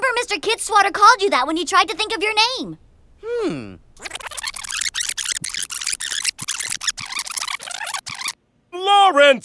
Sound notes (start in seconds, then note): 3.3 sound of tape rewinding